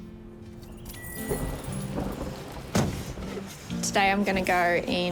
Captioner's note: thunder rumbles in distance